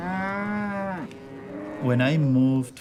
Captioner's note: cattle mooing